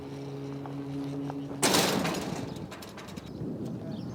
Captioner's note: door slams